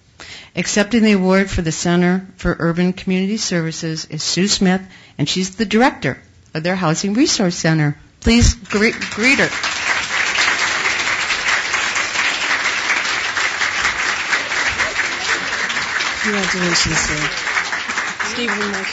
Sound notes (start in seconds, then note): 12.9 applause